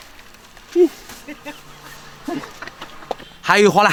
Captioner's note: laughter of the actor